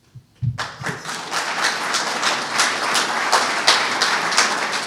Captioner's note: audience clapping